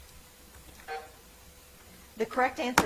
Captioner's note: timer buzzing